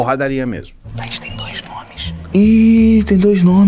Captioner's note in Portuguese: sussurrando